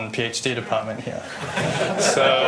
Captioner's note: laughter